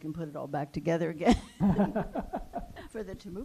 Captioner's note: laughter